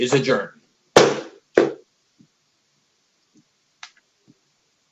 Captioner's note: gavel bangs